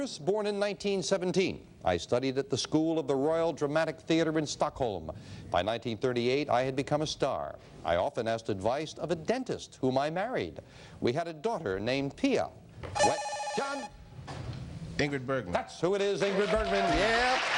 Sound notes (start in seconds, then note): 12.9 beeping